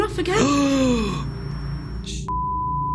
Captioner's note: gasp; beep